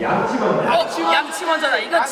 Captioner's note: all shout out brush first